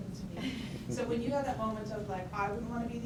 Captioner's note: chuckles murmur